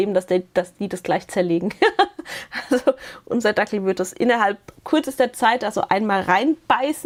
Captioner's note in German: Gelächter